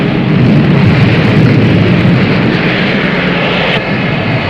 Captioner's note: explosion booming